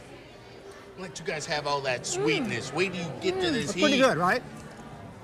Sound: laughs

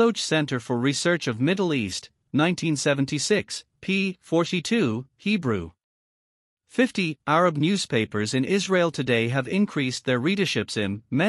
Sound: Hebrew

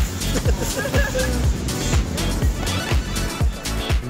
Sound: chuckles

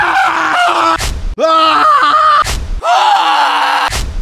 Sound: Demoman Death Scream; Engineer Death Scream; Medic Death Scream

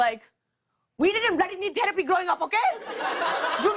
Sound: laughter

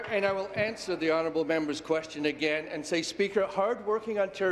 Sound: applause

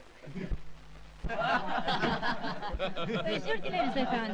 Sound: male students laughing

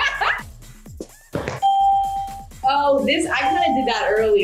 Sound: laughs; buzzer; ding

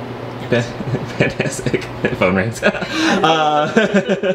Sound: chuckles

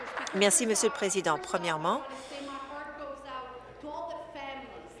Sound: applause

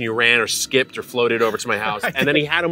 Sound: laughs

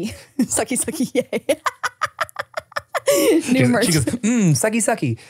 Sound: laughs

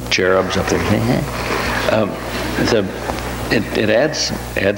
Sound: makes silly noise; audience laughs

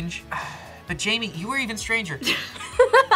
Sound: sighs; laughs

